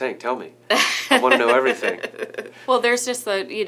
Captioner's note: laughing